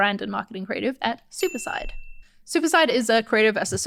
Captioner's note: bell dinging